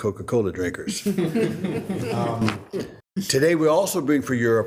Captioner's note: group laughing